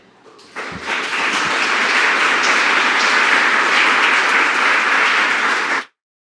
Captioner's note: applause